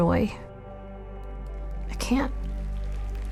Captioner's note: audience clapping